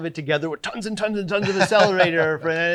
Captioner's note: laughing